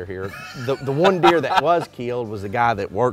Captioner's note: laughing